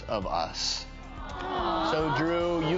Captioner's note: crowd awws